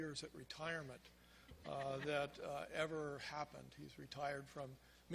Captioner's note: crowd laughs